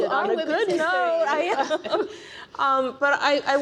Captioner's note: panelists laughing